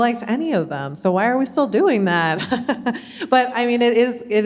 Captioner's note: chuckling